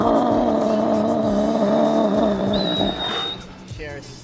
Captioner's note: seal barking; whistles